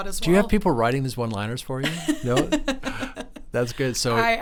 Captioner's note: laughing